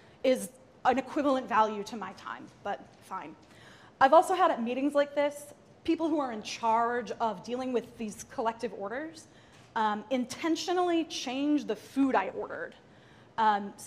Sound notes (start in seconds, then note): none